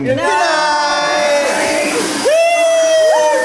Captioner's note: air blowing